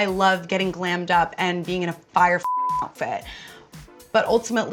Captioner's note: beep